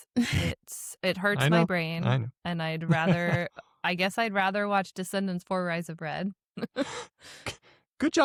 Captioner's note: laughs; laughs